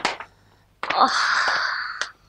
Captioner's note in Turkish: İç çekme